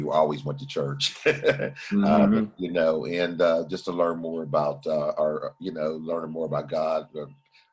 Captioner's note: laughter